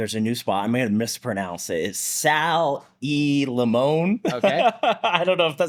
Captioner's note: laughs